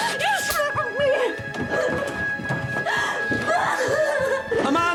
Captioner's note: cries